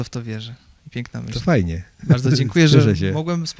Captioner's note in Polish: śmiech